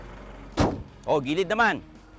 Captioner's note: hood closes